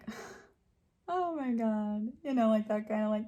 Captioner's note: chuckles